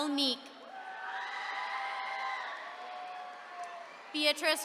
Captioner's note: attendees cheering